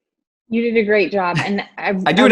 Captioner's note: laughs